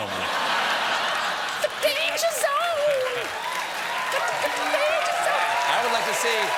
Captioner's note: laughter